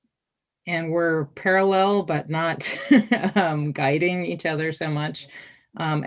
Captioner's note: chuckles